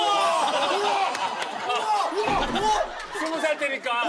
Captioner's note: cheers